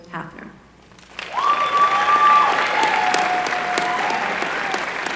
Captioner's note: applause